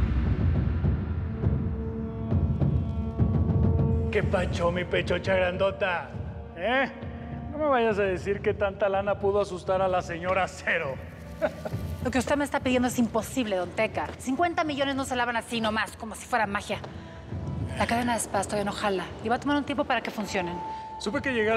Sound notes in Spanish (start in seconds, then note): 11.4 risa burlona